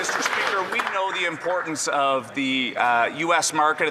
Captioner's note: some Applause